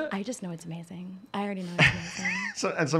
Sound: laughing

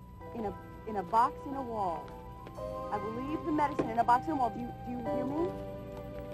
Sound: mom's voice

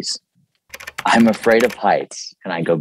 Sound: keyboard clicking

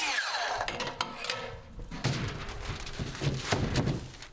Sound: metal clacking loudly; wood thudding loudly

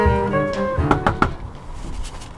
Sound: knocks

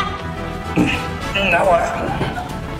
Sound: grunts

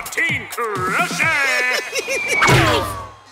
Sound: laughs

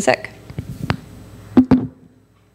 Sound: mic bumps

